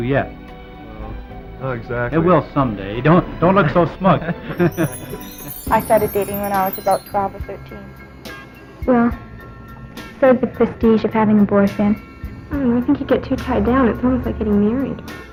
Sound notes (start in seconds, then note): 5.1 chuckles